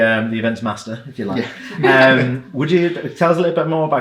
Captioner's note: chuckles